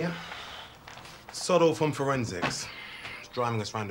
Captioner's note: sighs; sighs